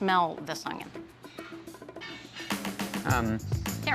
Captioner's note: sniffing